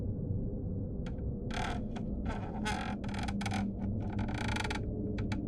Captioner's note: floor creaking